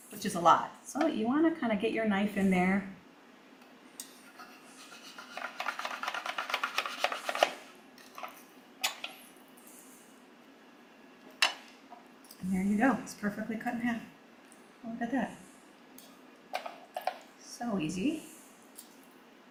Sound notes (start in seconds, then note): 4.8 knife rustling